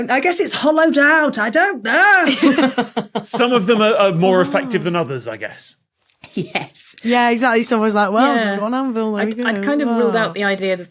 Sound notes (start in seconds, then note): 2.2 laugh